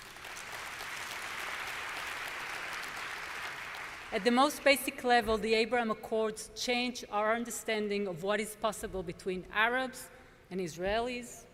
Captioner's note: applause